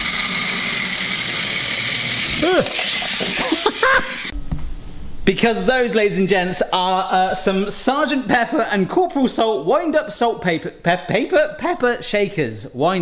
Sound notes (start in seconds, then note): 0.1 shakers whirring; 2.3 gasps and laughs